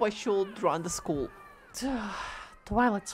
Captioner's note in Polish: wzdech